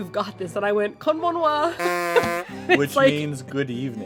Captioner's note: laughter